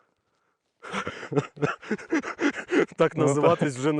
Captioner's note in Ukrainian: сміються